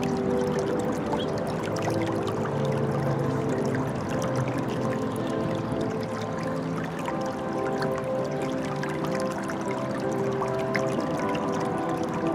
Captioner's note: running water